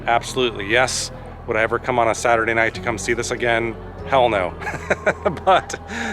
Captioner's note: laughter